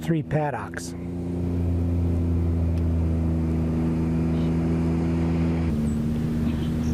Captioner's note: cattle and motor sounds